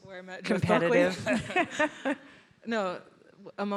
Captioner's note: all laughing